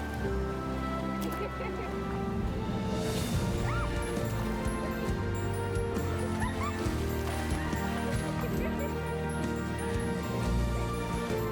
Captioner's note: giggling, water splashing